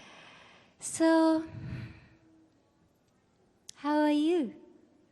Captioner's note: sighs